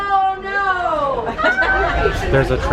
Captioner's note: laughter